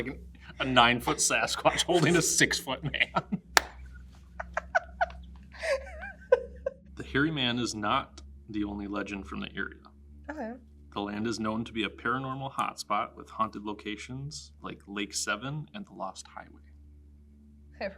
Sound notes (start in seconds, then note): 3.6 laughs